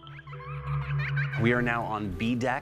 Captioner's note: child laughing